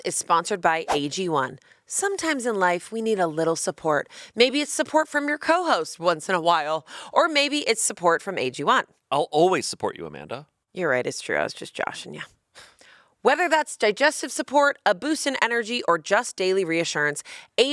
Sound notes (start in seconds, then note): 12.6 sighing